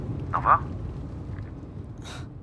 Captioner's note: Carel on the phone